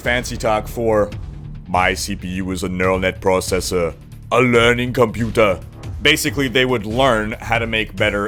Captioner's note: Terminator voice; in normal voice